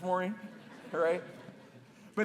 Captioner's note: laughter